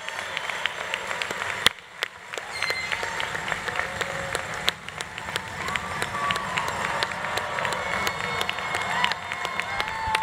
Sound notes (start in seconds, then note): 2.2 audience cheering continues; 3.0 audience applause continues